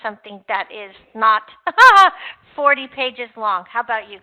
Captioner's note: laughs